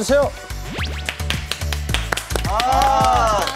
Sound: clap; welcome applause

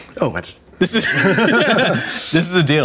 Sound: both laugh

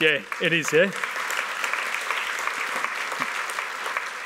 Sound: applause

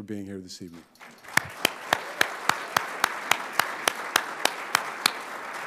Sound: audience applauding

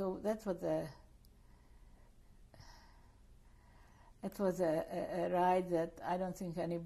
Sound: pauses for 3 seconds

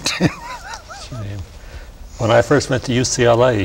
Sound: laughter

